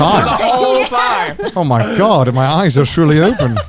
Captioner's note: all laughing